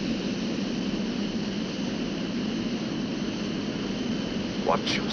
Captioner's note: plane whirring